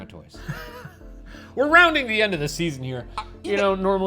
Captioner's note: laughs